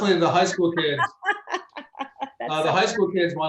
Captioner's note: laughs